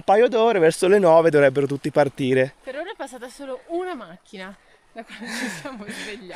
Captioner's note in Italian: risate